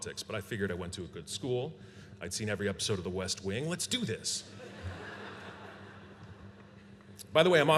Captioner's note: laughter